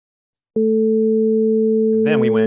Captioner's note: sustained sound plays